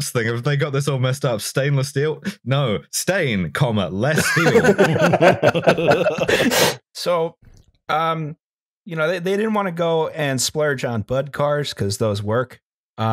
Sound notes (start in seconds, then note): 4.1 laughter